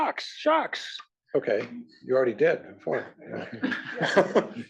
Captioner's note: laugh